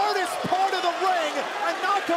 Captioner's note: crowd cheering